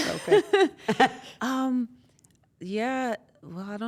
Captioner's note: laugh